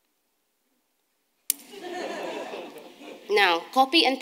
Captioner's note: audience laughing